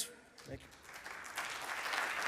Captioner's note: audience clapping